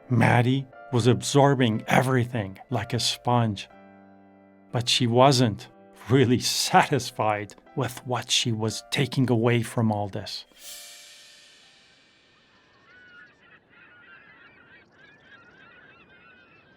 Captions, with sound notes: Maddie was absorbing everything like a sponge, but she wasn't really satisfied with what she was taking away from all this. (tense cymbals music) (gulls squawking)